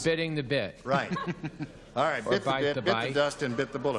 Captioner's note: chuckles